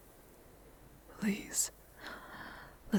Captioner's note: her voice husky, pleading